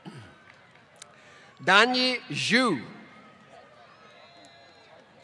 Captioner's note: applause